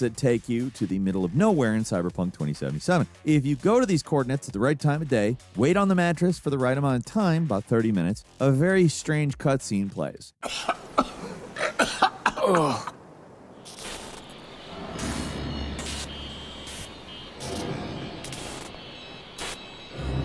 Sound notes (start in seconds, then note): 10.4 coughing; 12.7 transition hissing and crackling